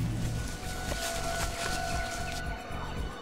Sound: rustling footsteps; birds chirping; children laughing and shouting

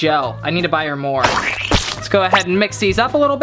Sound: squirting

